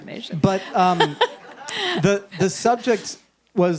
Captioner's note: and audience laughs